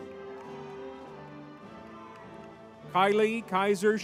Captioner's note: crowd cheering